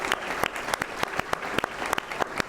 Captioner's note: applause